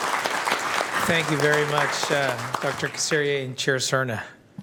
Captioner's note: applause